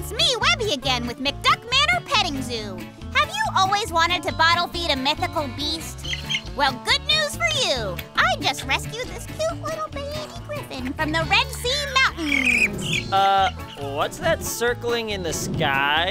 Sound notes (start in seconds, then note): 5.7 chirping